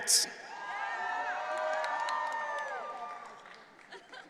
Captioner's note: audience cheering